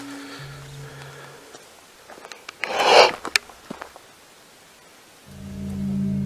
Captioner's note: strange footsteps